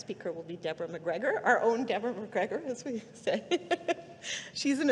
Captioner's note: laughing